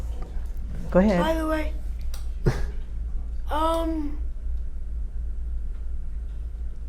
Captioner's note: laugh